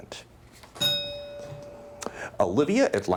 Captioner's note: bell dings